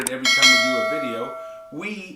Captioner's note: bell rings